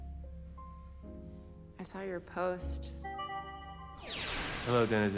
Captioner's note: system beeps, whirs